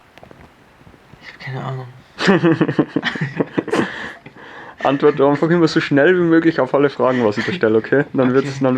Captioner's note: laughter